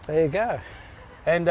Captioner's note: laughs